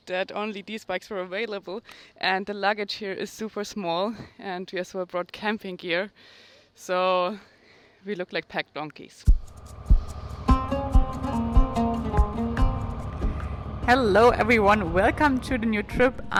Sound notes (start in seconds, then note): 9.3 pensive music; 9.5 bike rumbling